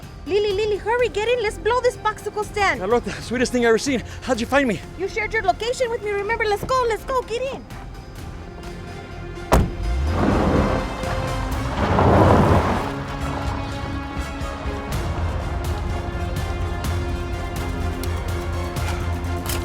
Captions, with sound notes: - Lee-Lee, Lee-Lee, hurry. Get in. Let's blow this popsicle stand. - That's about the sweetest thing I've ever seen. How'd you find me? - You shared your location with me, remember? Let's go! Let's go! Get in! (car door thumps) (gravel crunching) (suspenseful music continues)